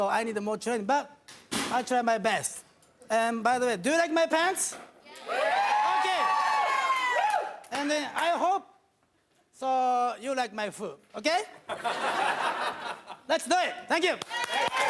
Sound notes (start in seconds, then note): 5.2 audience cheering; 11.7 audience laughing; 14.2 audience cheering